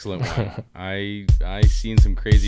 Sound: laughs

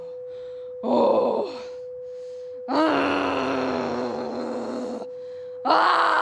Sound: breathes heavily; growls and yells repeatedly

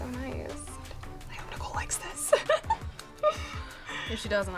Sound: laughs

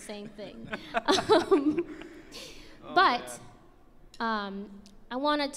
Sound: laughs

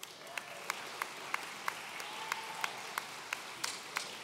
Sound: audience cheering

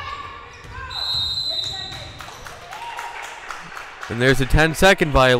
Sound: whistle blowing

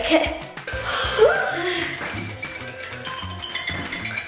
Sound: alarm ringing

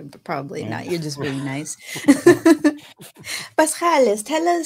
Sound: chuckles

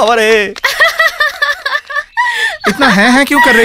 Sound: laughs

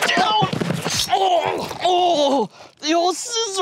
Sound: knife slices; reporter groans

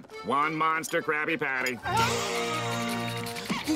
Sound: gasping

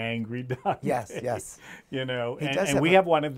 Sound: laughs

